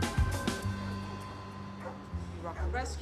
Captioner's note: dogs barking